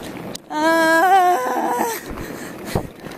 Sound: more groan

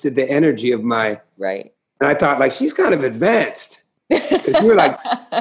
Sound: laughter

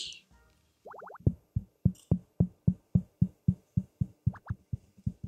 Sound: tapping

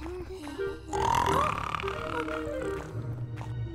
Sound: all panting; loud snoring

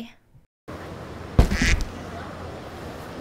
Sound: duck quacks

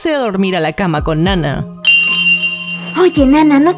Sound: kawaii sound

